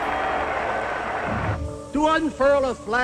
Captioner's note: crowd roars